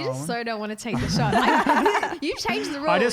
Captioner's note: laughing